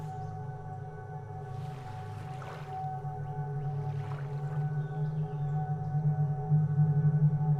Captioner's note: water lapping; tense music